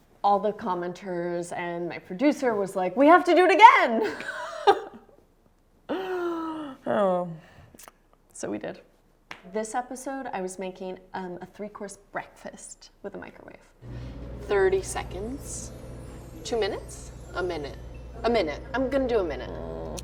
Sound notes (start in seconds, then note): 4.9 laughs; 6.4 inhales gravely